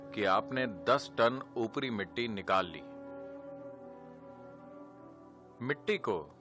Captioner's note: speaks in Gujarati – not transcribed